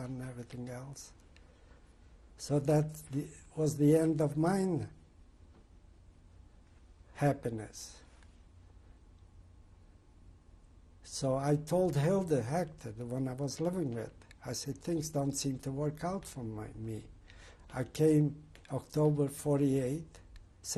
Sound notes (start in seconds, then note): 5.1 pauses for 3 seconds